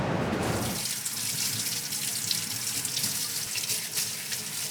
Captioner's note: running water